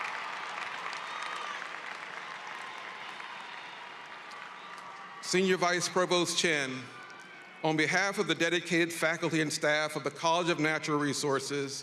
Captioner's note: cheering and applause